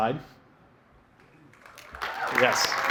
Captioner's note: cheering, applause